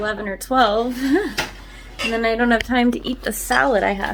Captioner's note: laughs